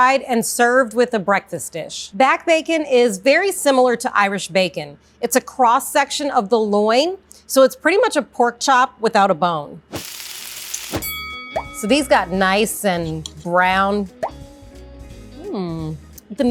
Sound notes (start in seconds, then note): 9.9 pan sizzling; 10.9 bell rings; 14.3 upbeat music